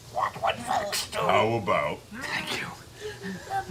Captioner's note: whispering